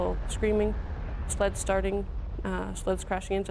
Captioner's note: voiceover